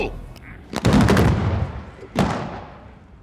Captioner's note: explosions